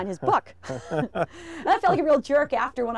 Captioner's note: laughing